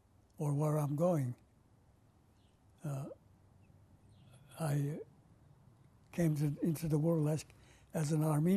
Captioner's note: pauses for 3 seconds